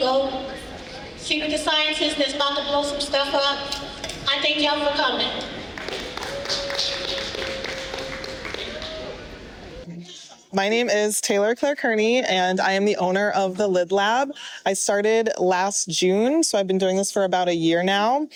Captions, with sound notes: go see the sciences, there's multiple stuff up. I thank you all for coming. (audience applauding) My name is Taylor Claire Kearney and I am the owner of the Lid Lab. I started last June, so I've been doing this for about a year now.